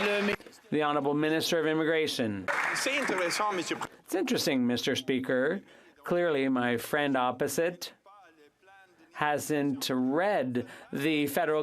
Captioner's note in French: applaudissements